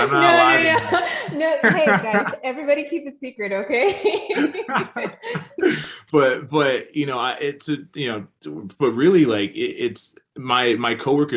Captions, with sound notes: - No, no, no, hey guys, everybody keep it secret, okay? (all laugh) - But really my coworkers right now